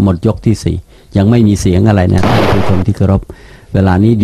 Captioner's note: gunshots sounds on the backgrounds